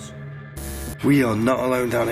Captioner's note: static